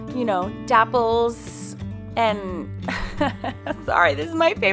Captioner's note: laughs